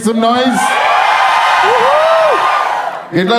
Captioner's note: crowd applauding